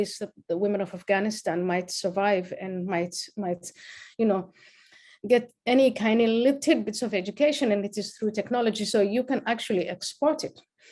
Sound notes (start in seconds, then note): none